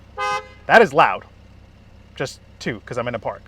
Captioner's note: car engine purring; car horn beeps